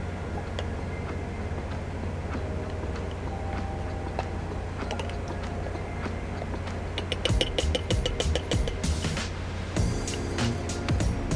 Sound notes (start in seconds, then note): 0.1 gentle upbeat music; 6.8 spoon tapping